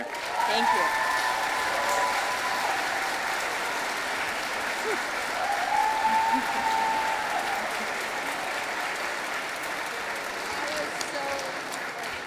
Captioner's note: audience applauding